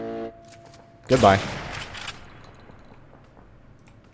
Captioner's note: bam